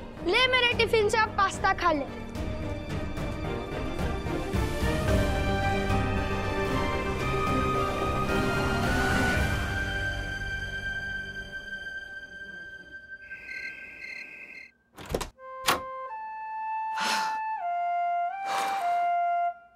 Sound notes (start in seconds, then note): 14.9 door opens; 16.9 gasps